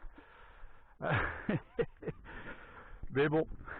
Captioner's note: laughs